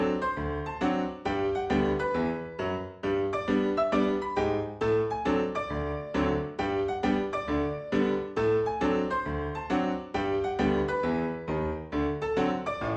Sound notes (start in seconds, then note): none